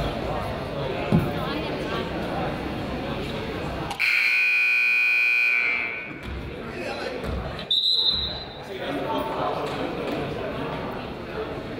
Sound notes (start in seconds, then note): 4.0 buzzer honks; 7.6 whistle blows